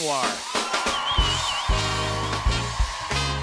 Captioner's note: cheers and applause